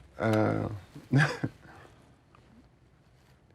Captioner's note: chuckles